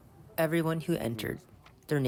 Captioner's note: through translator